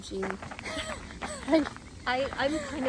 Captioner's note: laughs